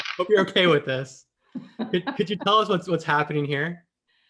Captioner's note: laugh